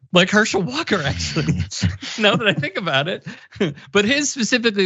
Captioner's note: laugh